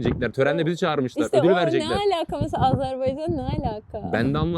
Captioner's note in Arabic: ضحكة